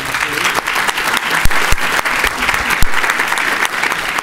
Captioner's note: clapping